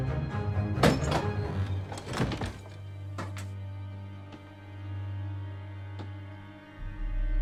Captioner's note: suspenseful orchestral music; door creaking